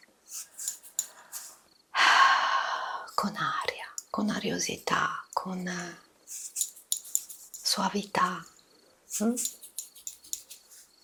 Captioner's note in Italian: sospiri